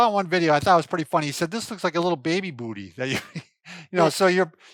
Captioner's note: laughs